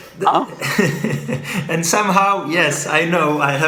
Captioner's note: laughs